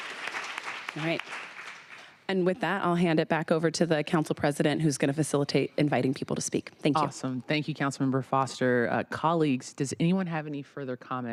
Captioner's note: applause